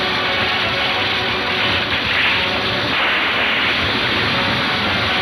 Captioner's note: tree thuds